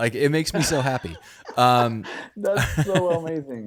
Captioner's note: laughing